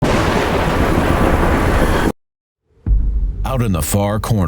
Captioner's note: thunder crashing